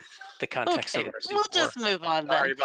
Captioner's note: laughing